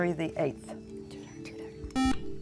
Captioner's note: buzzer